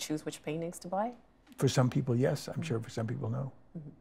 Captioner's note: laughing